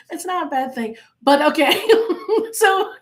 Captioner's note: laughing